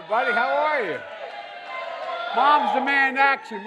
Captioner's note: applause